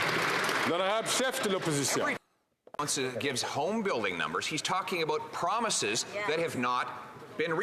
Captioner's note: some Applause